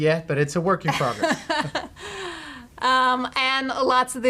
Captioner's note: laughing